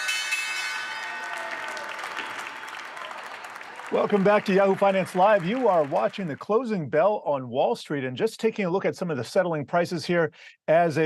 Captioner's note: bell ringing